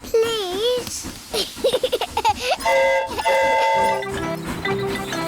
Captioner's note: giggles; train horn toots